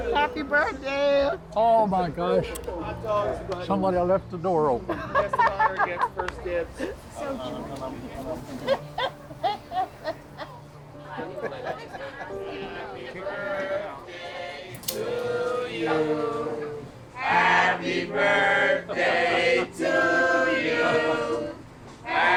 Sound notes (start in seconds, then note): 5.6 woman laughs; 7.8 laughs